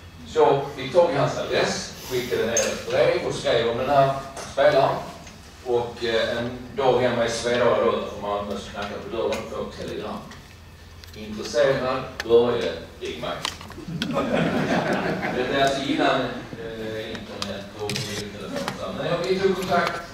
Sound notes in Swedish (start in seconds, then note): 13.8 Skratt